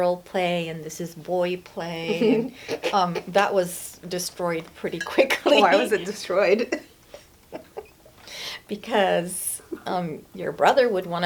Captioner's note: laughs